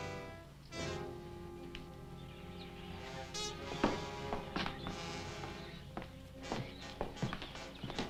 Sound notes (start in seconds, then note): 0.0 tense orchestral music; 0.0 birds chirping